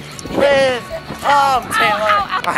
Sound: painful noises

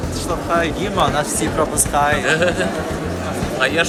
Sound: laughs

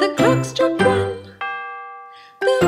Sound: bell dings

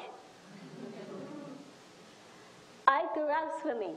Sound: audience laughs

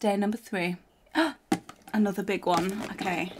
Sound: gasps

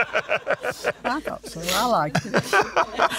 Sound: laughs

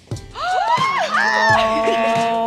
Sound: gasps

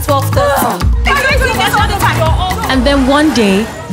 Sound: arguing

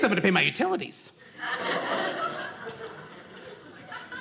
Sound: audience laughing

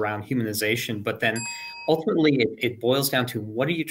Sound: bell dings

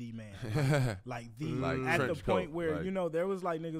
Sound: laughs

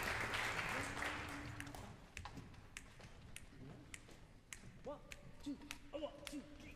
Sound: audience applause; conductor snapping fingers

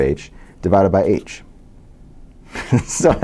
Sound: laugh

